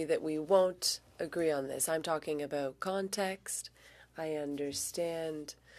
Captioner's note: speaking French